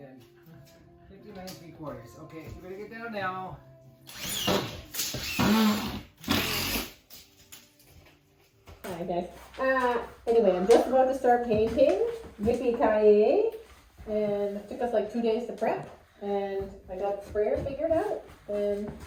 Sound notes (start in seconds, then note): 4.0 drill sounds